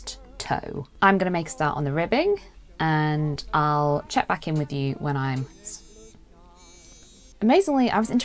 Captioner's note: phone vibrates